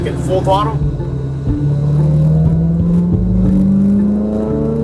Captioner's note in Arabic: هدير محرك السيارة